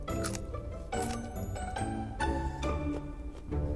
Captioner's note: crunching